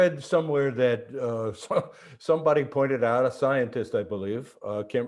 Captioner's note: chuckles